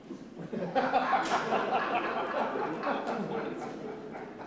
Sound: laughter

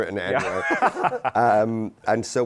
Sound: laughter

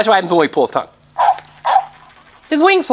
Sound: panting

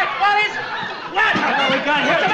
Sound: audience laughs

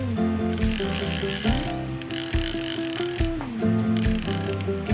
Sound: reel cranking

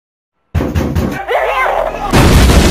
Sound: knock knock knock; boom

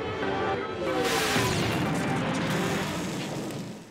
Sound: whirring; booming

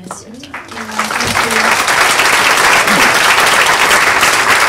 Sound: people applaud

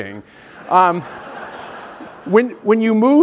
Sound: laugh

